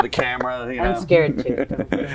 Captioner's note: laughs